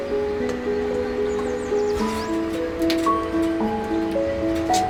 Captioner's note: calming piano music; birds chirping